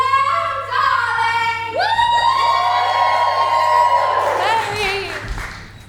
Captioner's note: audience cheers